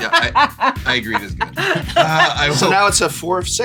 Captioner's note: laugh; laughs